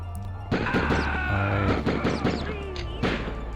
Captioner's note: terrirost shrieks in dying agony